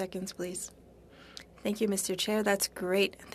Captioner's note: speaking French